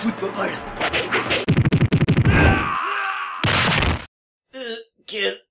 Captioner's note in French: bruit baston